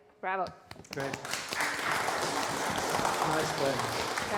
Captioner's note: audience applauding